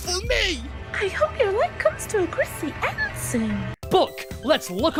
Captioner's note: whispering